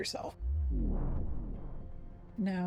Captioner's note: vwoom